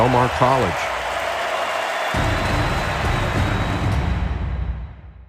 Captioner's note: crowd applauding and cheering